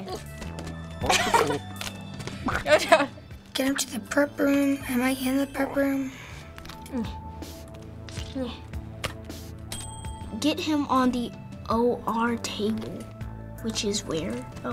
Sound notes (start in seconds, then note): 1.0 laughing; 9.7 trophy ding